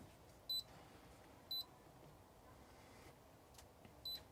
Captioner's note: beeping